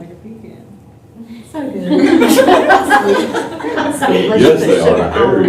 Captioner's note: laughter